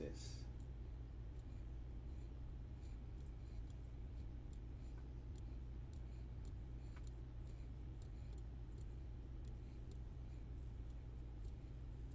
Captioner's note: click